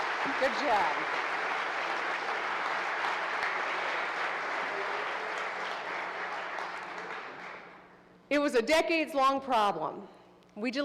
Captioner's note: applause